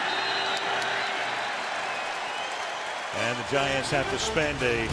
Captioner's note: whistle